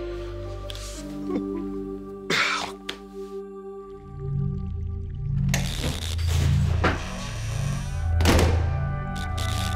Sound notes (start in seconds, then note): 5.8 electricity buzzing